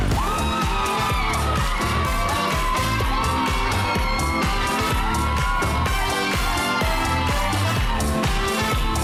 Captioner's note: crowd screaming